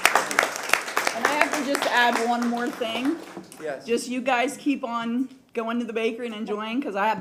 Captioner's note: applause